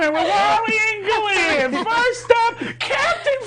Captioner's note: others laughing